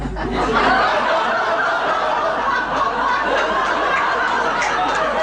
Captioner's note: everybody laughs